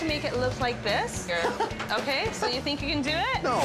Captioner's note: John laughs